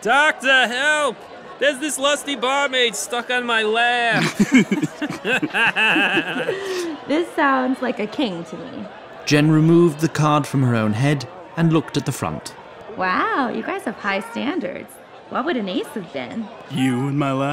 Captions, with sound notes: TRAVELER 1 Doctor help! There's this lusty barmaid stuck on my lap! TRAVELERS 1 & 2 [Lewd Guffaws] JEN This sounds like a King to me. NARRATOR Jen removed the card from her own head, and looked at the front. JEN Wow you guys have high standards. What would an ace have been? TRAVELER 2 You in my lap.